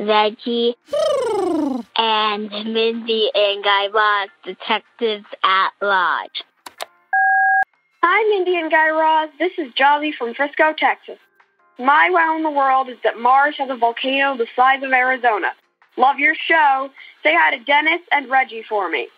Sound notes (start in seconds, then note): 6.3 soundbite of beep